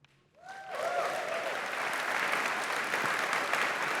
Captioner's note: cheers, applause